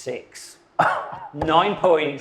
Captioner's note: chuckles